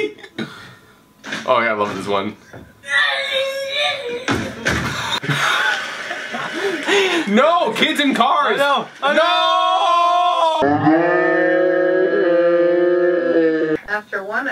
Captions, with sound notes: - Oh yeah, I love this one (child crying) (laughing) Oh no, kids in cars. Nooooo! Noooo!